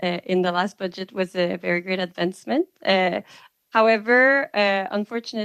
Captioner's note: speaking French